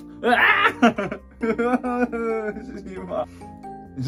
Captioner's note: crying